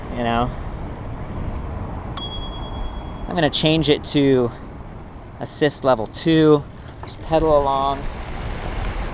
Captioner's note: ringing sound; pedaling wind noise